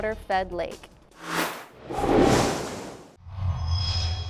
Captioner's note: sound Effects